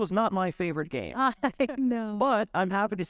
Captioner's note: chuckling